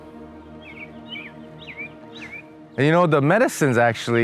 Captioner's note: birds chirping